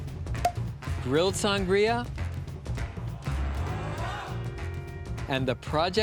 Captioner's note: bottle popping open